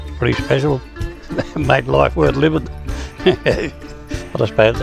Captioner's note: chuckles